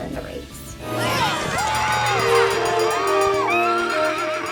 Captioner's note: cheering